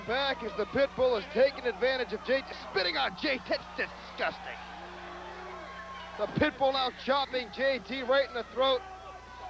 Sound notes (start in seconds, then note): 6.2 crowd cheering